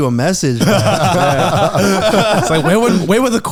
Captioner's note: all laughing